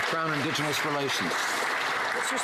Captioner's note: some Applause